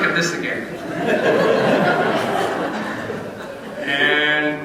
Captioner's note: laughter